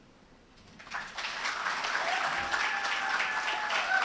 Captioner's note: ^applause^